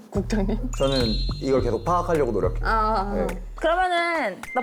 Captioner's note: diligent sound effect